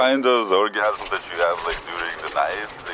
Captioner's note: legs rasping